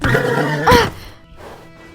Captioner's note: Avanshee cries out